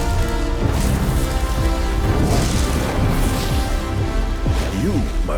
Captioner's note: fire whooshing